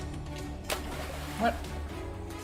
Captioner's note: splash